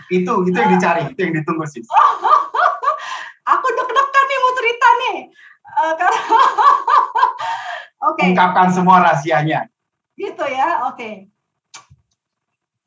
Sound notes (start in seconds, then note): 5.5 laughing